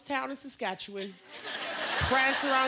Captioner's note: laughter